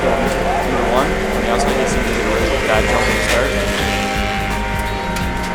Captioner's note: engines rumbling